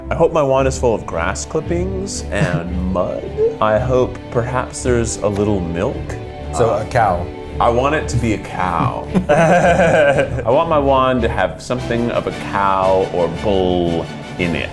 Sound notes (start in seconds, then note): 8.7 laughs